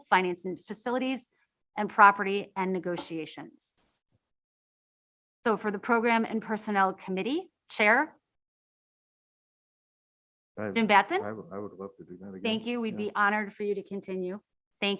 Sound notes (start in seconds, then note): 8.8 audio cuts out